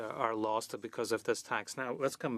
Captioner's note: speaking French